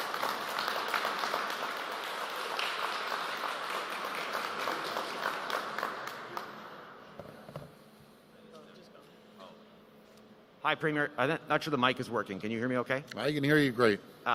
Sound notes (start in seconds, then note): 2.8 applause